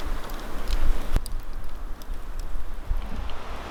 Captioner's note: fire crackling